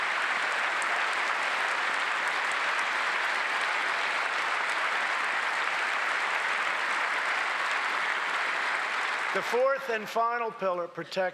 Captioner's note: applause